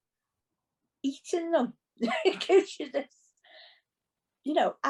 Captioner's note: laughs